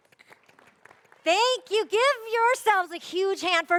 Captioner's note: speaker off mic; applause; cheers and Applause; speaker off mic